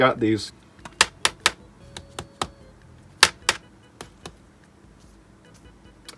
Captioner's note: testing disc case noises against the carboard